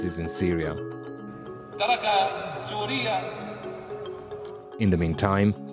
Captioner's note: speaking Arabic